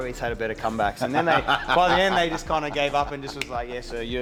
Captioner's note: laugh